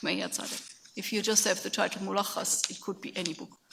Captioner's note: speaks in a foreign language